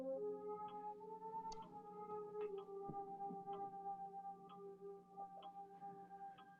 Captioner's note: suspenseful music; clock ticking